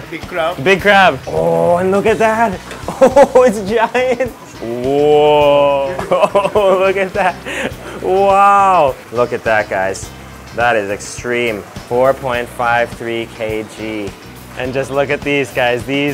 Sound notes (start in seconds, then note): 2.6 laughs